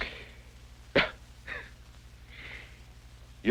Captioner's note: laughs